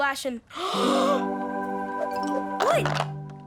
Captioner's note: gasping